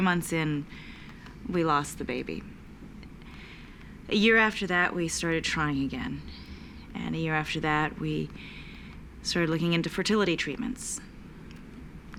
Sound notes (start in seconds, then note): none